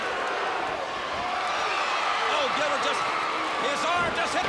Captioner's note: crowd cheering